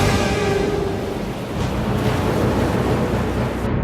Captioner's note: ocean sounds